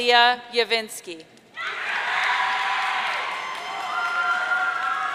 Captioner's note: audience cheering